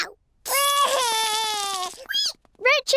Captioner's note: cries